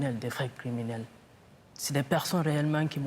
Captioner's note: speaking French